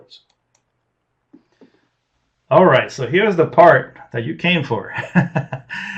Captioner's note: laughs